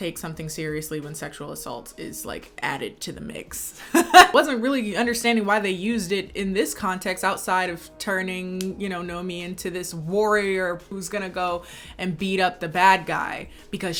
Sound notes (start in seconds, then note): 3.9 laughing